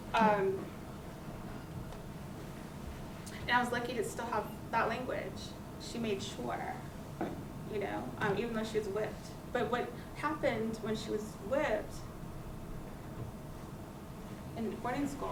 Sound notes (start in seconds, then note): none